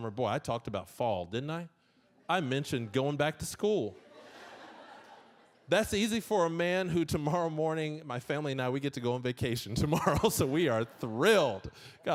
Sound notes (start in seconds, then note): 4.0 audience laughing; 11.4 laughing